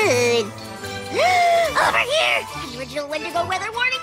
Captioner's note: gasps